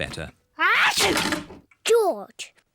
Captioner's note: sneezes